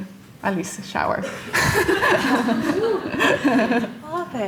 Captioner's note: laughter